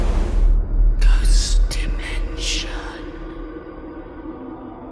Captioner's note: ghostly Voice